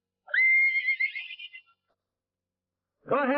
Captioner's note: horse whinnying